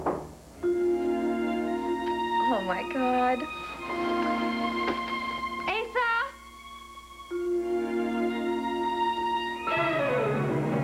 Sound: knock on door

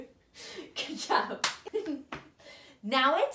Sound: both laugh; hands clap

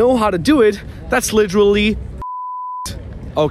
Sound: beeping

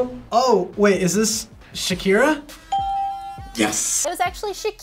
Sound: bell rings

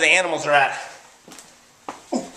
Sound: walking sounds

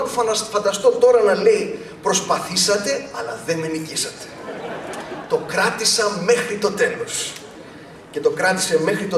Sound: laughter

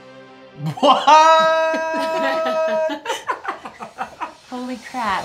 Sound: laughing

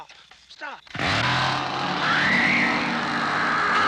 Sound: sound of chainsaw; screaming

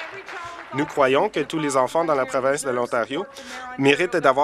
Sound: applause

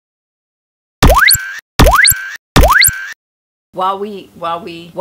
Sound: electronic machine noise

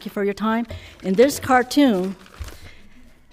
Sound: paper rustling

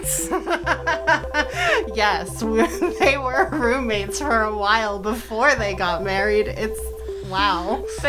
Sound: laughter

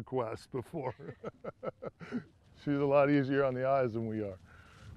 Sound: laughter

